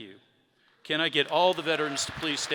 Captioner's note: audience clapping